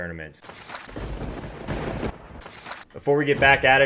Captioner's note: lightning strikes